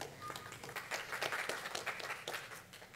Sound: applause

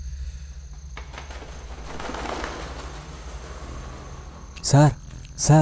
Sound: wings flapping

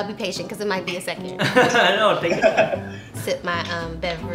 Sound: laughing

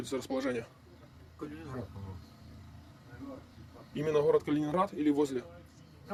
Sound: interrogating a POW in Russian

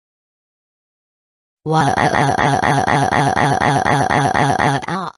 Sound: intense crying

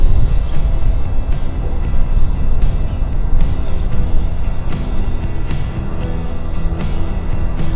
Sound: birds chirping

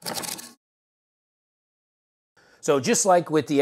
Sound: cardboard ripping

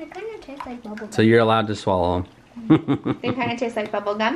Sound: laughs

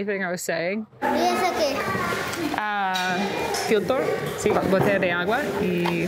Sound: speaking foreign language

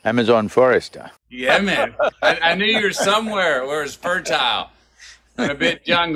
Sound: Sadhguru laughs

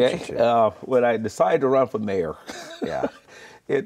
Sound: laughing

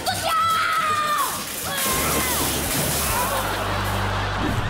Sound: crashing, screaming

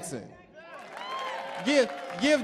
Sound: audience cheering; audience clapping

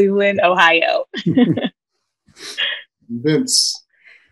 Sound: laughing

